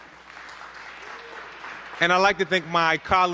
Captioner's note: applause